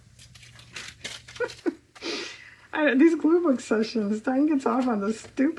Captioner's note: laughs